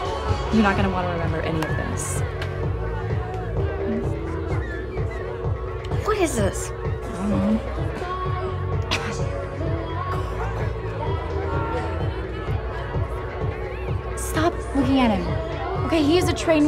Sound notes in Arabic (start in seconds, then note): 8.8 يسعل